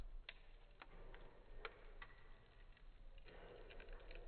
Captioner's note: fire crackling